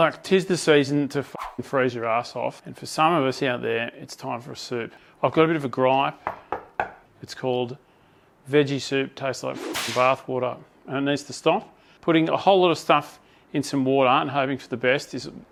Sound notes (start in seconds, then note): 6.2 knocks on table